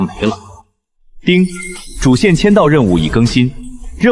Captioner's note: ding!